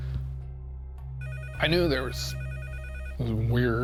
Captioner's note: phone ringing